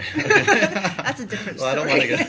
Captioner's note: laughing